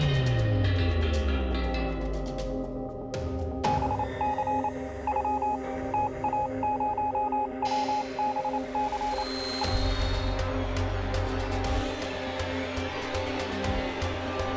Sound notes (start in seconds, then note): 3.4 morse code beeping